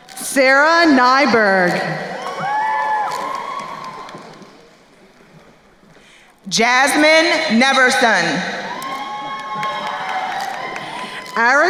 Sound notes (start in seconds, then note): 2.3 crowd cheering; 7.8 crowd cheering and applauding